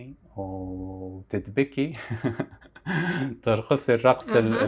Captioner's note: laughs